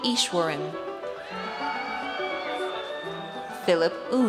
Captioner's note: audience cheers